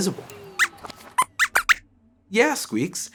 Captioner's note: squeaks squeaks